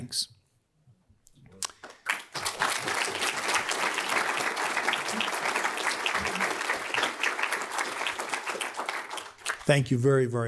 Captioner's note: applause